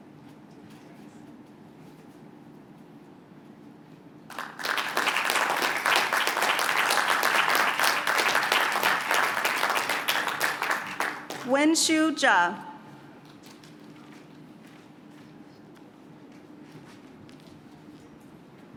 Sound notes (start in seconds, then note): 4.3 applause